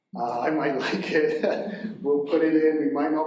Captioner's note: chuckles